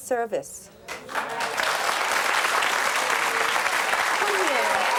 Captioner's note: audience applauds